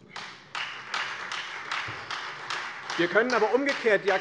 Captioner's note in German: Beifall Freie Demokraten